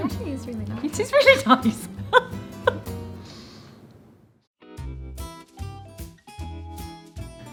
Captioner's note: laughing